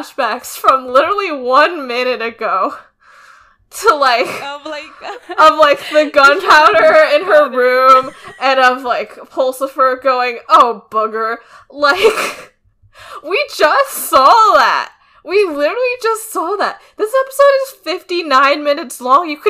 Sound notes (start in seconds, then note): 3.4 both laughing; 11.9 laughs